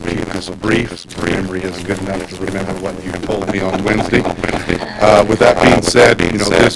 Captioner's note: laughter